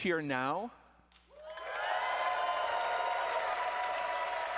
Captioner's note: cheering and applause